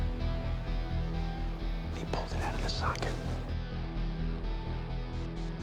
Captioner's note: whispering